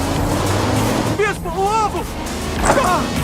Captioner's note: in English